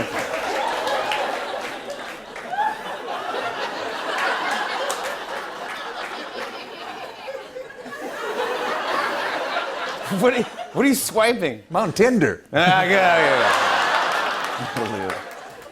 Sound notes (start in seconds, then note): 0.1 laughter; 8.1 laughter continues; 12.6 laughter